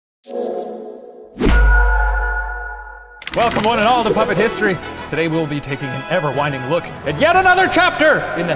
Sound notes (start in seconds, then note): 1.4 logo crunches